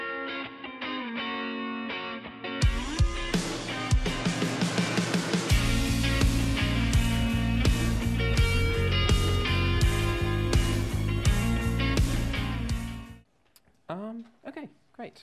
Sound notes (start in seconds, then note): none